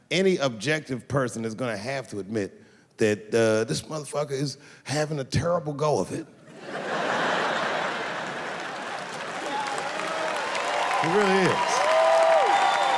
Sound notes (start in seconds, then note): 8.7 audience cheers